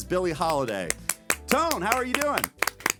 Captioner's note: clapping